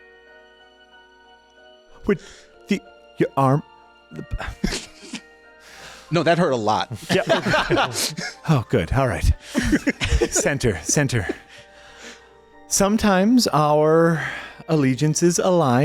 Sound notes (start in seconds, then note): 1.7 laughter; 1.7 stammers; 7.0 laughter